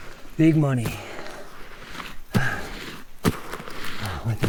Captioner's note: hand scraping